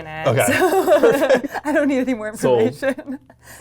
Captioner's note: laughs